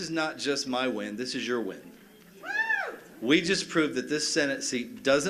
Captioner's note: cheers and applause